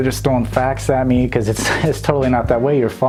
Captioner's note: laughs